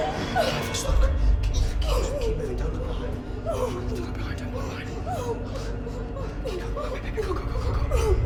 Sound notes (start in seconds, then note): 2.5 frantic whispering